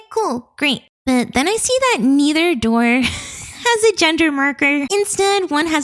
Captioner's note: chuckles